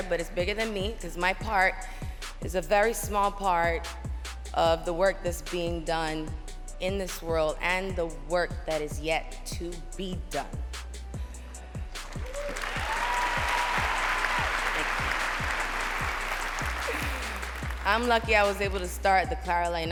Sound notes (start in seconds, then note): 12.1 cheering; 15.3 applause